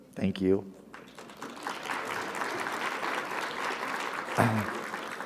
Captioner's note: audience applauding